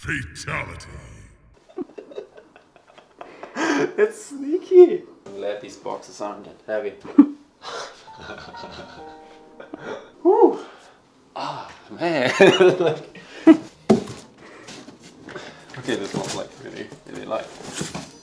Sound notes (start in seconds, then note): 1.6 laughing; 7.7 laughs; 7.9 groans; 13.6 laughs